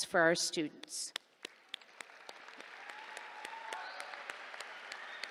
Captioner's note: cheers, applause